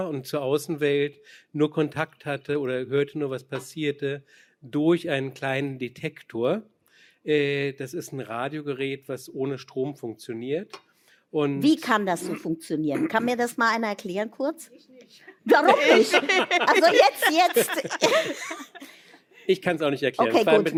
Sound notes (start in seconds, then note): 15.4 laughter